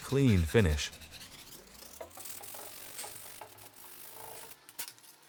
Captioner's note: sandpaper scraping